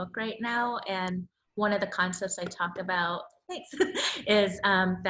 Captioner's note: laughs